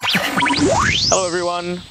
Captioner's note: chuckles; choppy, futuristic sound